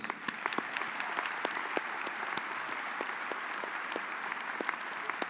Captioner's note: audience applauds